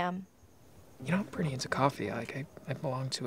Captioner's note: hushed